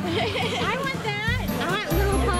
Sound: laughs

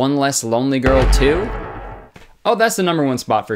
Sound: slamming Sound effect

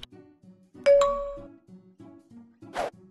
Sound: Messenger pings

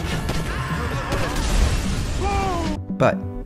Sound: gunshots bang

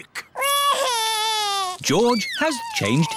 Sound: crying

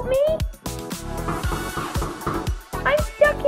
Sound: knock, Knock, Knock, Knock, Knock!

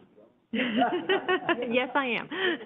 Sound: everyone laughing

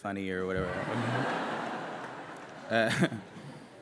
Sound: laughter

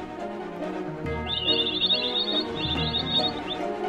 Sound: birds chirping

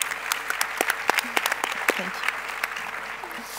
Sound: audience claps

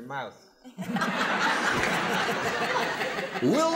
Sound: laughter

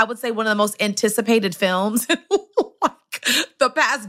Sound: laughs

